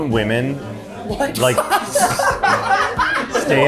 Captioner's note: laughter